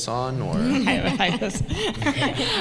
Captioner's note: laughter